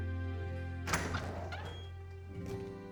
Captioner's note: door opens